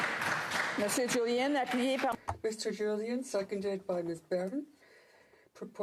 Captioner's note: some Applause